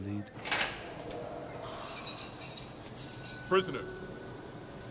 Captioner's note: door opens